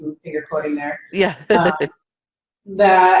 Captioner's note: chuckles